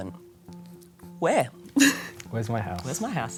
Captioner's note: laughter